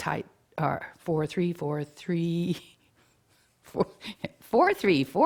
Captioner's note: laughs